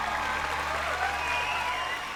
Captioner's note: cheering